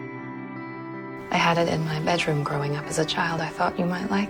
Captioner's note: voiceover